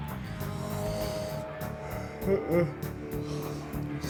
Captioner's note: yawns